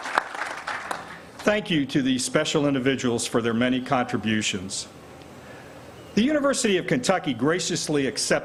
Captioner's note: applause